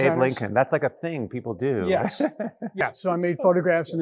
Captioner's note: laughs